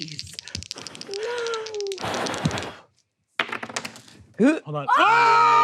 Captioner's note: exhaling